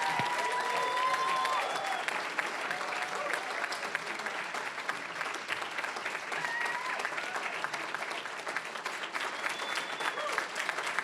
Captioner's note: cheering, applause